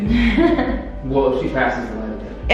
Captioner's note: laughing